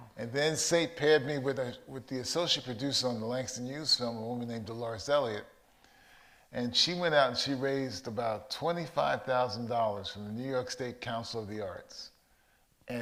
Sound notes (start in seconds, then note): none